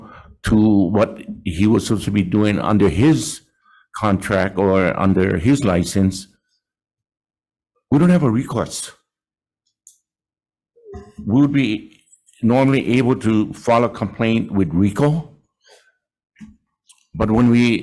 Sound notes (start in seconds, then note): none